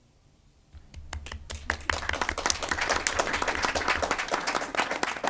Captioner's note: group applauds